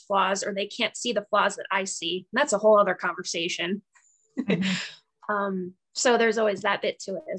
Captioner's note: laughs